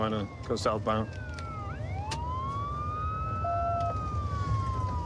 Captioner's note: sirens wailing